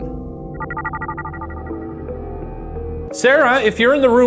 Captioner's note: gentle gloomy music; image whirring